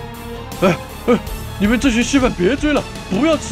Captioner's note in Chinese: 喘氣